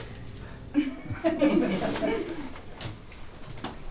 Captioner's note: laughter